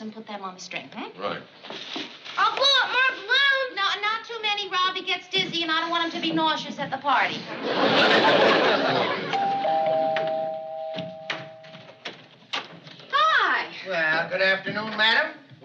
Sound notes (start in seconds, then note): 2.1 yelling; 9.3 doorbell rings